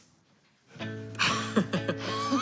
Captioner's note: both laughing